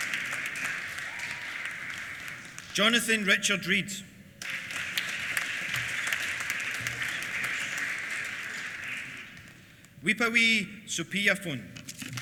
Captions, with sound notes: Jonathan Richard Read. (APPLAUSE) Wipawee Supiyaphun.